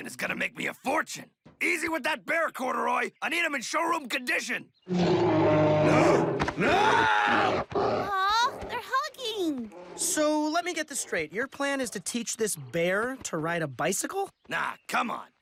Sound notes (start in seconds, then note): 4.8 roaring